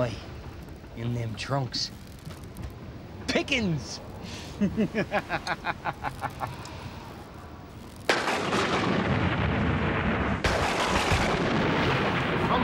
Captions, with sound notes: Aye. In them trunks. Pickings. [LAUGH] [THUNDER]